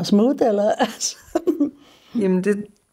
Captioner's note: chuckles